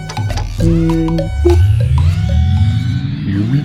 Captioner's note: clacking noises; launching noises